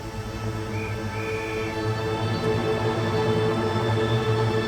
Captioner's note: whistle trilling